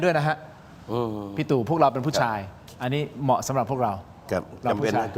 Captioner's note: laughs